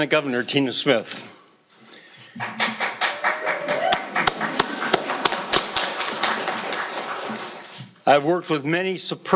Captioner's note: applause